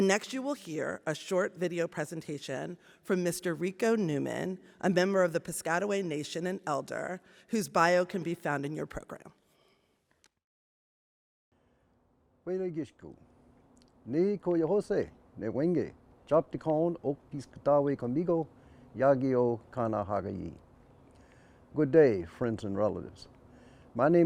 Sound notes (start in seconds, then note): 13.4 indiginous language